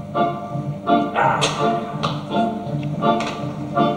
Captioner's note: spits